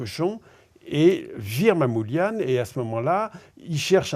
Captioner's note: none